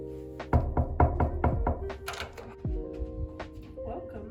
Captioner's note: door knocking